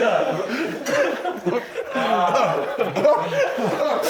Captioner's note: laughing so hard he's crying